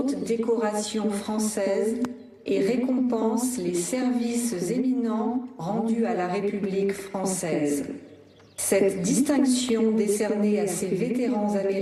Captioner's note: speaking global language